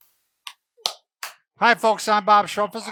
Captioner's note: soft clapping